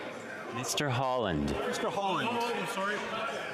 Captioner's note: speaking French